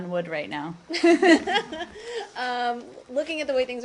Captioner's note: laughter